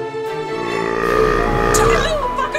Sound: belching

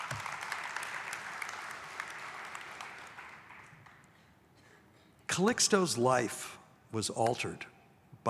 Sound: audience applauds

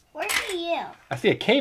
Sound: voiceover

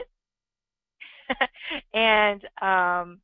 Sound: chuckles

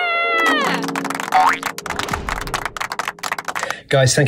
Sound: applause

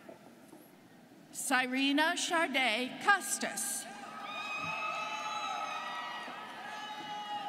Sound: students cheering

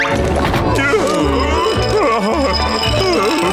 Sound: painful moaning

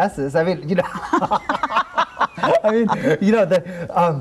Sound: laughing

